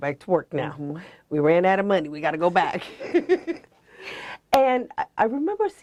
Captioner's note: laughs